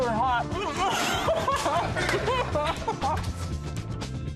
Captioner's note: laughs